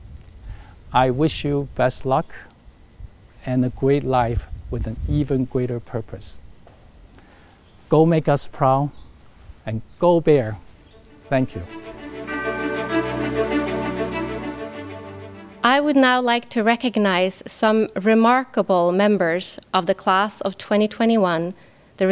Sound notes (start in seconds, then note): 10.9 bright orchestral music; 12.2 bell dings